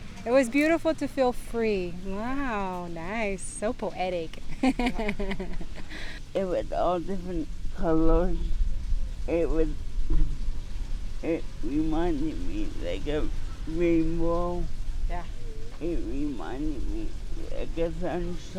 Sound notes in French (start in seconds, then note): 4.4 Des rires